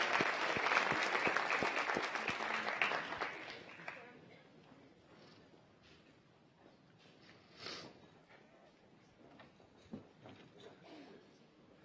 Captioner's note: applause